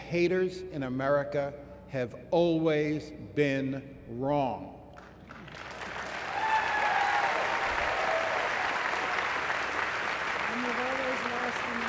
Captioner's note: applause